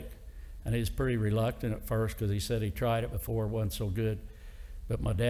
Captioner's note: none